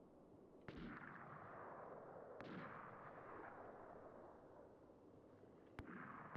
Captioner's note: guns firing in the distance